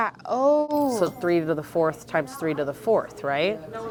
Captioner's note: chime